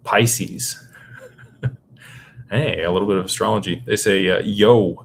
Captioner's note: laughter